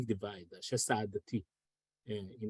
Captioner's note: speaks foreign language